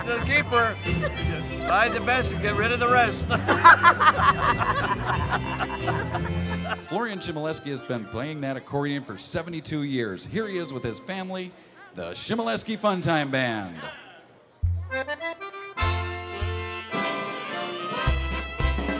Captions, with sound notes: She's a keeper. Buy the best, get rid of the rest. (all laughing) - Florian Chmielewski has been playing that accordion for 72 years. Here he is with his family, the Chmielewski Funtime Band. (polka music)